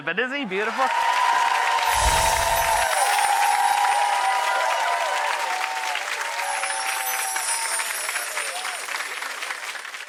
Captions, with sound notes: but isn't he beautiful? (audience cheers)